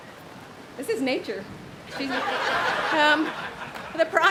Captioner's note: audience laughs